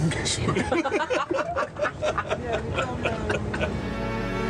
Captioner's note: Manny laughing